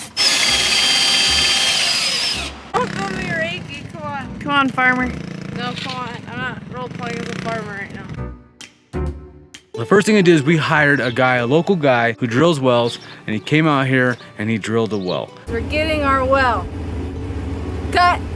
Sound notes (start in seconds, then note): 0.0 saw rasping; 0.0 drill whirring; 2.8 UTV revving drowns out speech